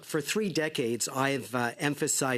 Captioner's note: speaking French